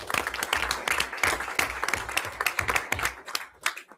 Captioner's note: everyone applauds